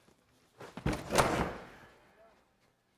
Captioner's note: bangs the door